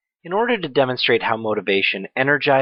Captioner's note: voiceover